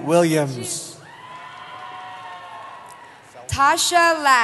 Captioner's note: cheering